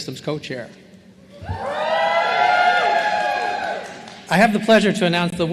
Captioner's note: cheering